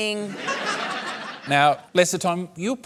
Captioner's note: laughter